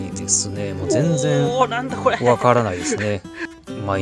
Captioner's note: screaming